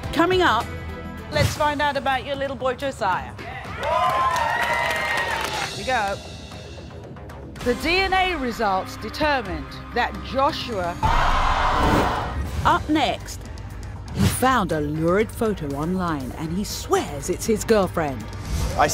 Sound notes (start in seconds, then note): 3.8 audience applauding; 11.0 audience gasping